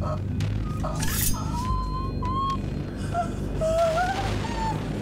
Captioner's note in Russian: женские стоны